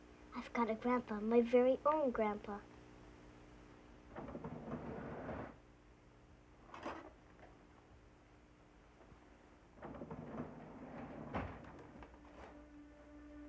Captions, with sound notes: I've got a grandpa, my very own grandpa. (door opens and closes)